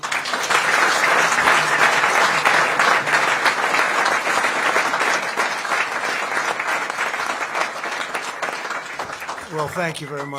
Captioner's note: applause